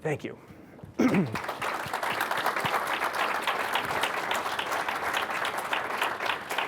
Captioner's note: applause